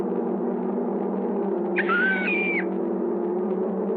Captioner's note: screaming